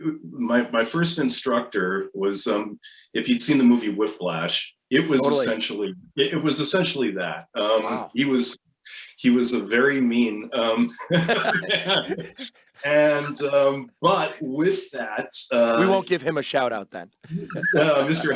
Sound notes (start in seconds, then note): 11.0 laughs